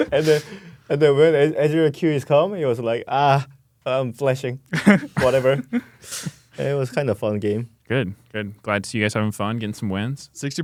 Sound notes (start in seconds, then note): 0.0 laughs; 4.7 laughs